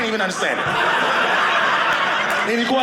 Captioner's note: audience laughing